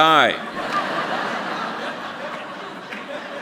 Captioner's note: laughter